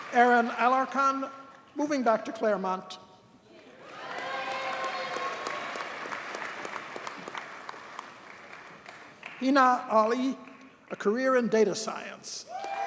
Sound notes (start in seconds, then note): 3.8 audience cheers and applauds